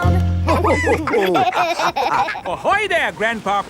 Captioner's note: all laughing